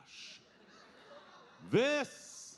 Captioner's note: audience laughing